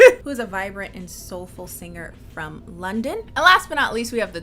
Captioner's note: laughs